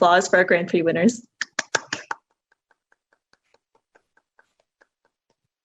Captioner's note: clapping